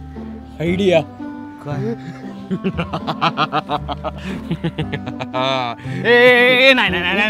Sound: monster laugh

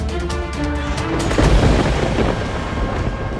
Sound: thundering

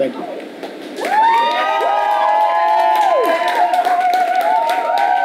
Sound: audience cheers and applauds

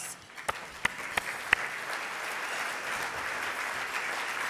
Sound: audience applauding

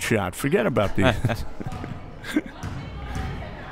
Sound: laughs

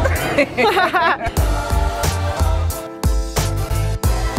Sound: both laughing

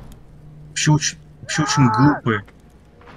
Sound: that guy screams

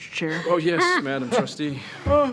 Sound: trustees chuckling

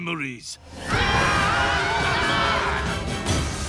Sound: screaming

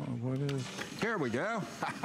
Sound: laughter

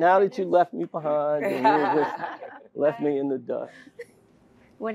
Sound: laugh

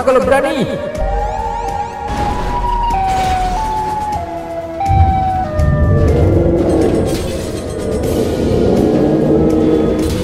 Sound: Sirenhead noises

